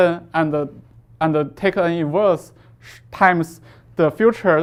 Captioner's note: faintly speaking